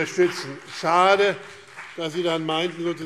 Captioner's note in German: Beifall BÜNDNIS 90/DIE GRÜNEN und vereinzelt CDU